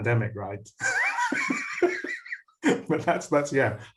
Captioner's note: laughs